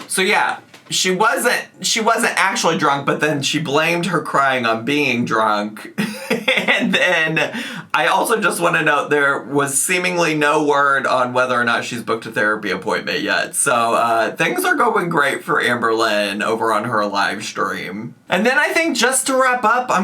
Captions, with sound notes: - So yeah, she wasn't actually drunk, but then she blamed her crying on being drunk. (laughs) And then I also just wanna note, there was seemingly no word on whether or not she's booked a therapy appointment yet. So things are going great for Amberlynn over on her live stream. And then I think just to wrap up,